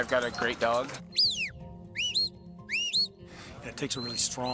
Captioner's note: whistling